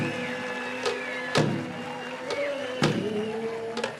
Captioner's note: cheering and applause